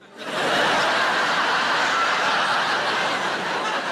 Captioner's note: audience laughing